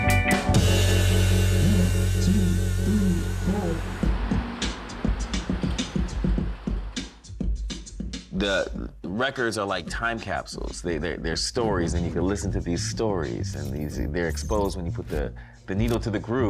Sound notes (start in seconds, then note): 3.8 beatboxing; 6.3 hip-hop music